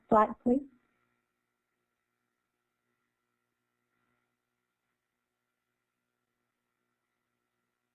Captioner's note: silence